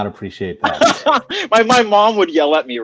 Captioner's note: laughing